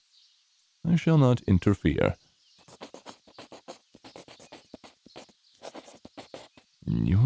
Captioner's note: pencil scribbling